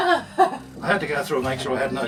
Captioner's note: laughing